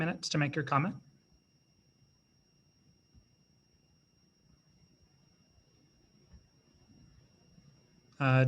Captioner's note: silence